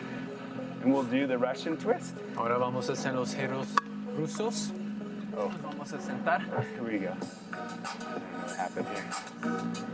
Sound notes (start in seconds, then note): 2.5 in foreign language; 9.7 energetic music